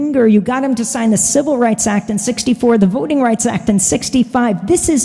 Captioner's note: none